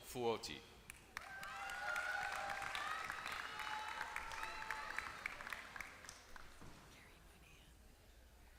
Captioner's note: applause